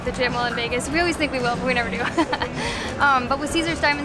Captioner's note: chuckles